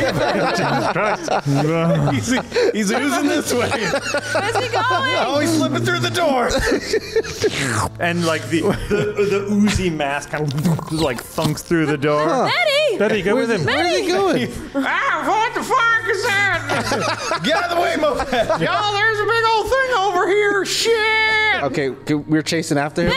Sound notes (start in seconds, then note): 16.6 laughs